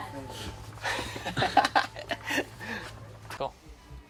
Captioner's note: laughing